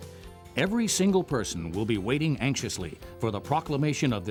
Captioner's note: voiceover